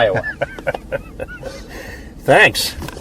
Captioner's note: Roger laughs